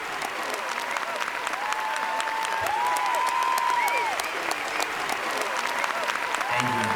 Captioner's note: students continue cheering and applauding